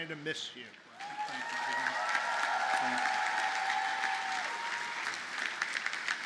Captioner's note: audience cheers and applauds